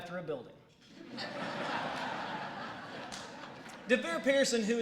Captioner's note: laughter